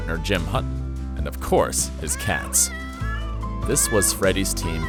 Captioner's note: meowing